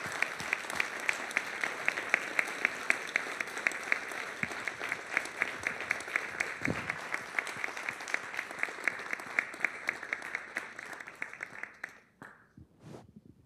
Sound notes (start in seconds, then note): 0.0 applause